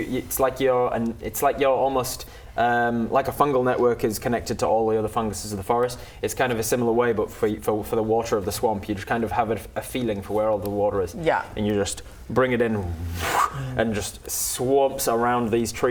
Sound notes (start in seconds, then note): 13.0 whoosh